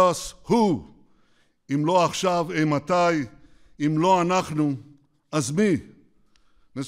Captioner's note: speaks Hebrew